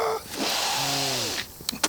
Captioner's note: spicy sniff